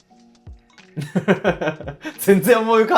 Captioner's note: laughing